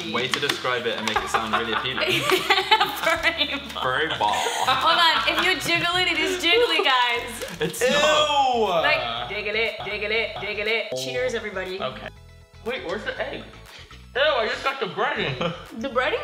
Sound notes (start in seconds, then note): 1.1 laughing